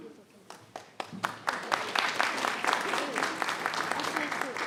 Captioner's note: applause